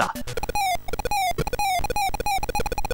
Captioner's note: Mario dies x3; Mario dies x4